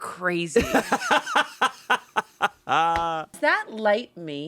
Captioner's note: laughs